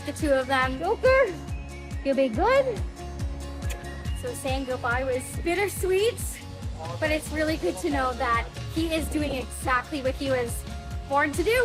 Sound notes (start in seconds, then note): 3.6 lips smacking; 11.4 soft music